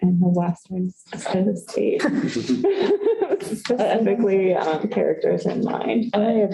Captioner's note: laughter